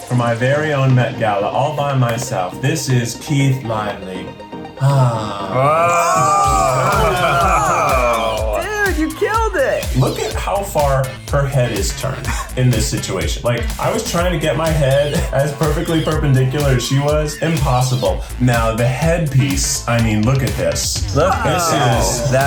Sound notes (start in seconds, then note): 4.7 gasping